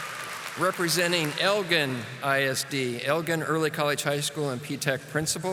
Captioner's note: audience applauding